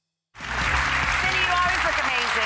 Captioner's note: applause